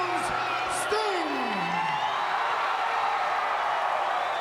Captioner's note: crowd cheer